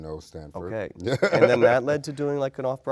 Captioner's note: laughing